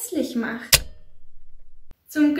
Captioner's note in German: Click